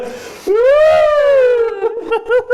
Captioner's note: laughing